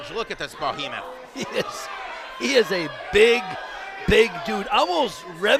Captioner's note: chuckles